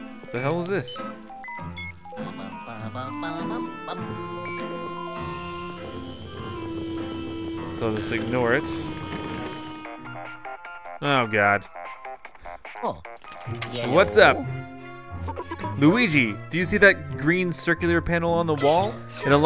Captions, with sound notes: What the hell is this? So I'll just ignore it. (cartoony digital ringtone) Oh, God! - Yello? - [Voiceover] What's up?